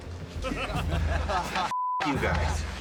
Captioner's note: laughter